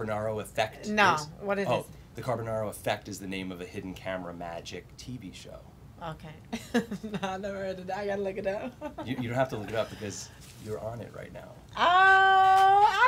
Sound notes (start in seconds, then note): 7.7 laughs